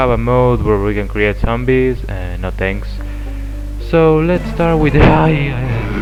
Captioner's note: scared